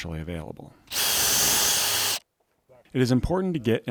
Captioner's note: drill whirring